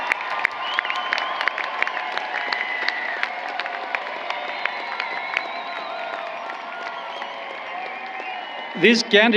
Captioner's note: applause